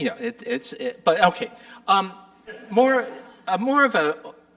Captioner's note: audience chuckling